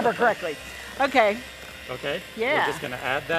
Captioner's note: laughs